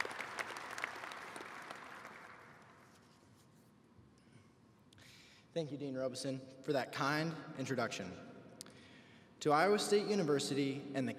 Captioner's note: applause